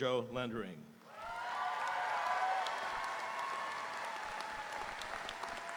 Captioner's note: audience cheering; audience applauding